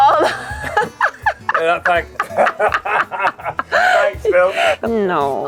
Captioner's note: laughs